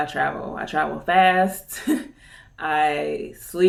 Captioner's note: chuckles